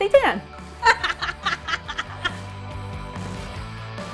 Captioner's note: laughs; upbeat music